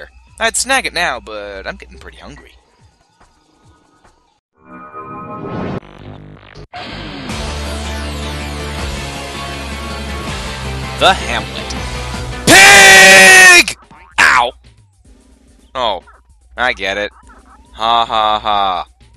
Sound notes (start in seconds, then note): 4.6 mystical sounds